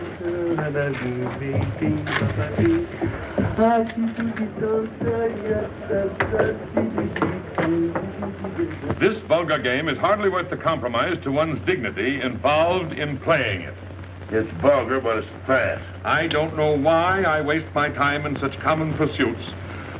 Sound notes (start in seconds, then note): 3.4 humming